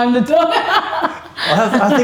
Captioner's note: laughs